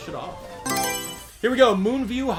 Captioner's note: Mario Selection Sound